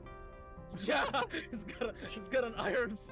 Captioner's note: laughs